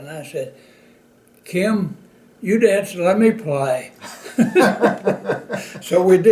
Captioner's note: laughter